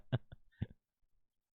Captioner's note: laughing